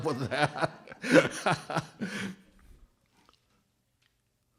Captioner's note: laughs